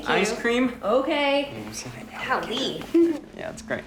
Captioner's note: whispers